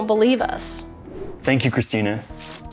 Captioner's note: paper ripping